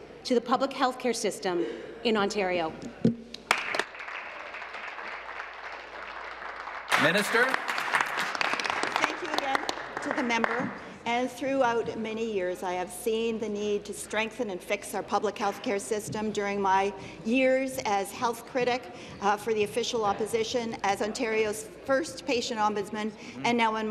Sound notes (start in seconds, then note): 6.7 applause